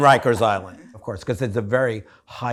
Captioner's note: all laughing